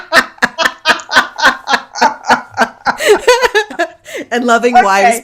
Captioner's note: laughing